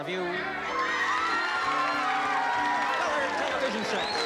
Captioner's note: cheering, applause